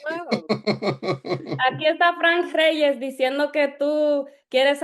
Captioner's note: non-english speech